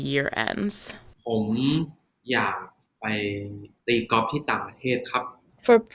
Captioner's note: answering in Thai